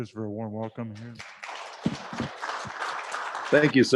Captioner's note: class audience applauding